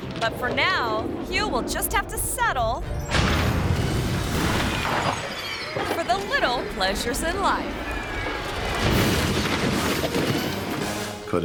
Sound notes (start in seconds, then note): 3.0 piano thuds; 8.6 car thuds